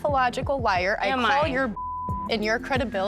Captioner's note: beep